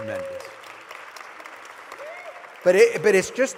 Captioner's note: applause